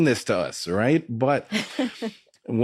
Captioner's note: laughing